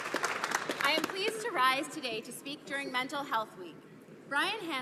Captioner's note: some Applause